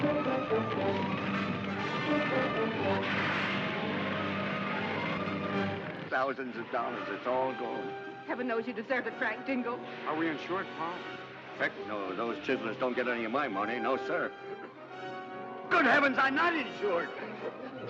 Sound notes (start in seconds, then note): 0.0 fire crackling; 0.0 suspenseful music; 3.0 suspenseful music; 3.0 water sprays